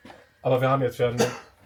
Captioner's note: speaks German